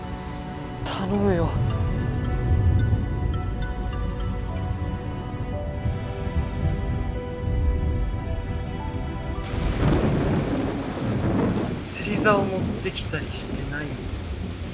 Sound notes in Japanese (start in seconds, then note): 9.4 雷鳴